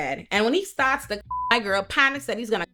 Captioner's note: beep